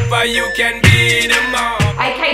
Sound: timer beeping

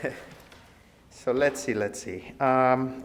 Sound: giggles

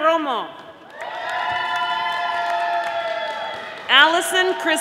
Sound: audience applauding

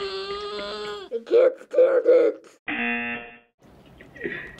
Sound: buzzer

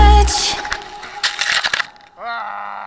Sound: snow Crunching

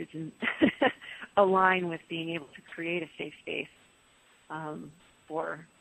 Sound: laughs

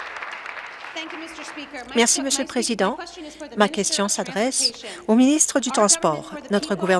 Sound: applause

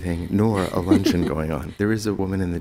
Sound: laughs

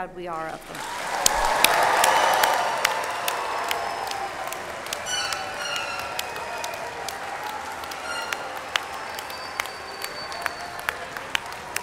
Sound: applause

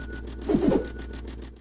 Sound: whooshing

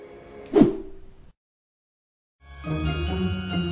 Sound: scene swooshes; magical outro music plays

